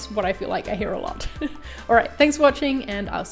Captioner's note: laughing